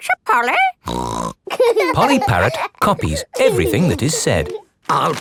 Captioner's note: laughing